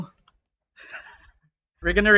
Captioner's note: laughs